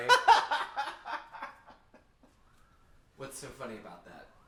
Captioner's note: Anubis laughing